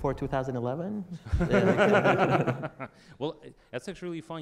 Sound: audience laughter

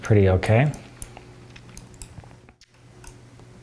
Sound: clicking

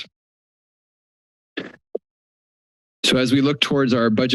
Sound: silence

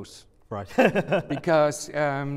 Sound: laughter

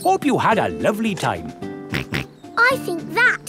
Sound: snorts

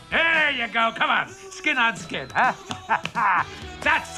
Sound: laughs

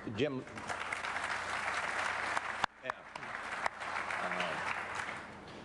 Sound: applause

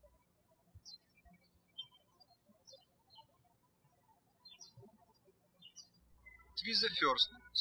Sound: birds chirping

